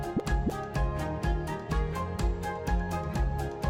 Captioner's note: logo pops